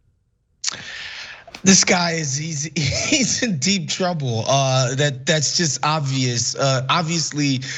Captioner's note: laugh